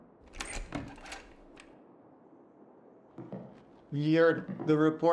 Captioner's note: door squeaks